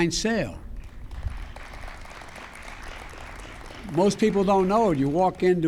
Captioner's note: applause